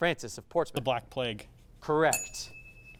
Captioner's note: ding sound